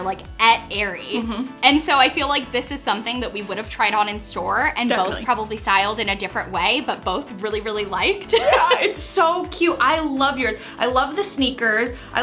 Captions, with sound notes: like at Aerie. - Mm-hmm - And so I feel like this is something that we would have tried on in store. - Definitely. - And both probably styled in a different way but both really, really liked it.(laughs) - Yeah, It's so cute. I love the sneakers.